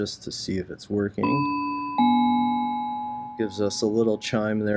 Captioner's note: Algo chimes